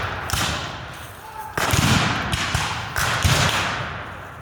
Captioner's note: guns fire